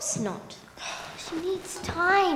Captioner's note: Flame sighs